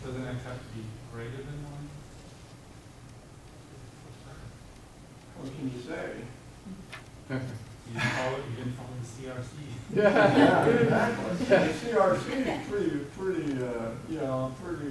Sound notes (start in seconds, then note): 10.0 audience laughing